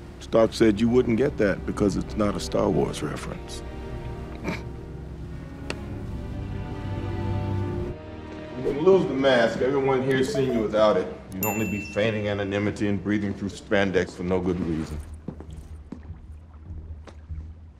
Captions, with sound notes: Stark said you wouldn't get that because it's not a Star Wars reference. [SNORTS] You can lose the mask. Everyone here has seen you without it. You'd be feigning anonymity and breathing through spandex for no good reason.